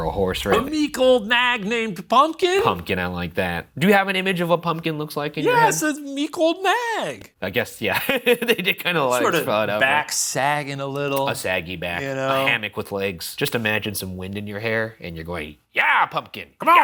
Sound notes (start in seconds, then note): 7.7 laughs